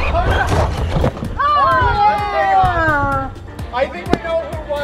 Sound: laughs; groans

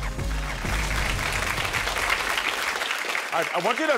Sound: audience applauding

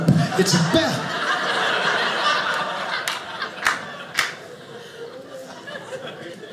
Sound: audience laughing

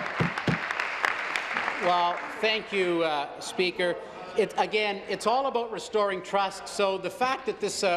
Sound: applause

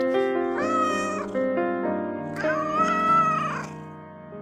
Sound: wild cat meowing

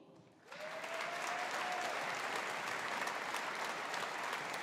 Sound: audience applauding

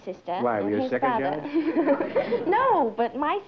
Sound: laughter

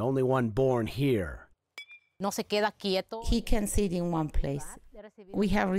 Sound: through translator

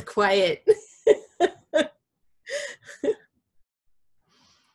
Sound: laughter

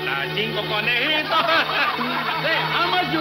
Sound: laughing; muffled shouting

